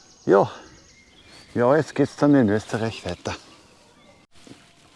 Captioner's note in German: Österreichischer Akzent